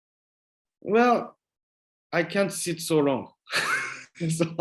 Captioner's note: laughs